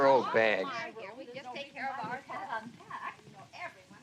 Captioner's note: chatter continues